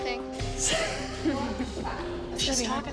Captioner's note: laughs